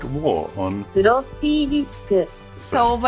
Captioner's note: computer speaking Floppy Disc in Japanese